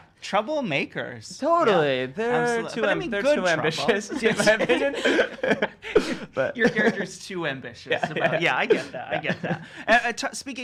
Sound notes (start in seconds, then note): 5.3 chuckles